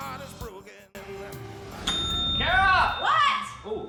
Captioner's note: bell ring